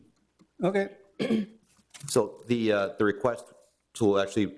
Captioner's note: clears throat